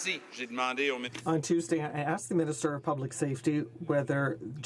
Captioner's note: some Applause